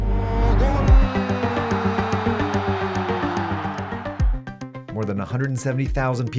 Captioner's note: commentator speaking in foreign language